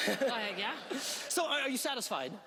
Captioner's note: laughing